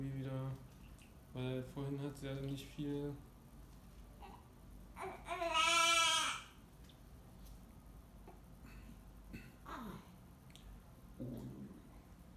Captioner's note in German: baby jammert